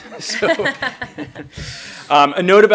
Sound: all laugh

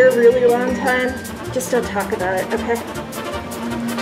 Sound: whisper; whipser

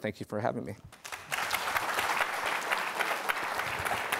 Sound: applause

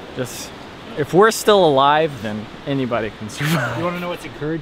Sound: laughs

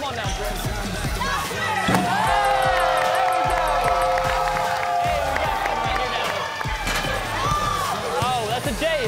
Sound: cheering

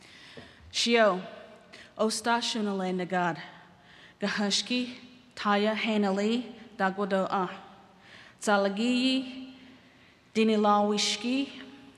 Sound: speaking Cherokee

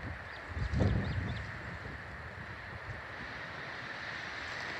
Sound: birds chirping

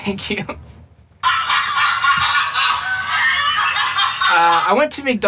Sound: laughter

